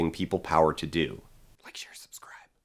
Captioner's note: whispered